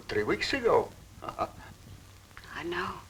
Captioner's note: chuckling